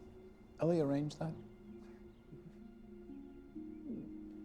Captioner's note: quiet chuckle